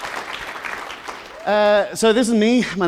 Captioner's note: applause